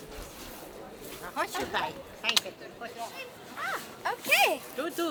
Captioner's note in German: spricht Polnisch